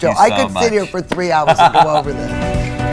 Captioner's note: laughing